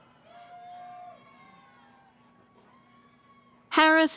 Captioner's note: cheering